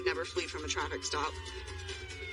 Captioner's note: siren wails